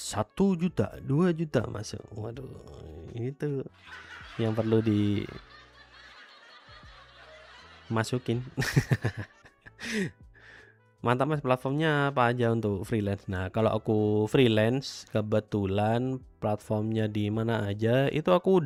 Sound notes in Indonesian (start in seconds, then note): 8.2 tertawa